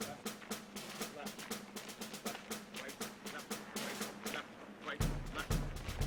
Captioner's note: marching drumbeat music; voiceover